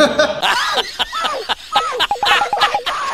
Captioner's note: laughs